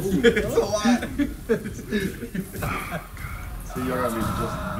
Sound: laugh

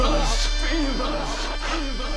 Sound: echo

